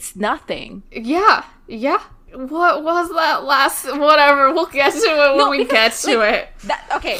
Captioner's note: both laugh